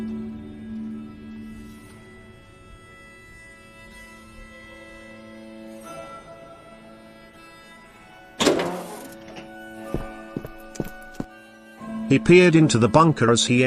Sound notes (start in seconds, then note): 8.4 door opens